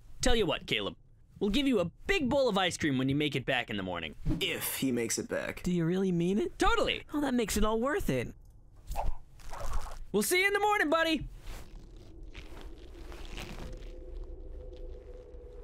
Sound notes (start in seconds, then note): 8.8 knot tying sounds